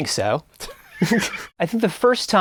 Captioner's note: laughing